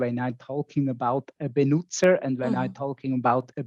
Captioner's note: speaking in foreign language